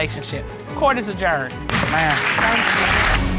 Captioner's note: audience clapping